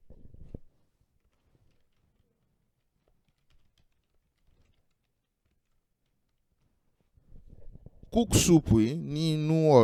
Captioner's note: typing...silence